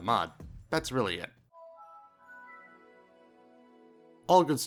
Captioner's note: the best windows startup sound effect ever made